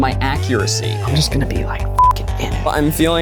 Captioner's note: beep